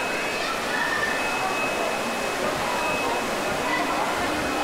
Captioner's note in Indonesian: suara kepanikan